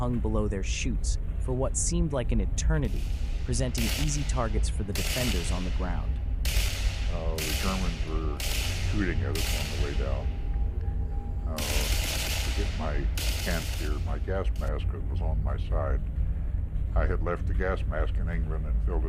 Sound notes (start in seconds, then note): 6.7 gunfire rattling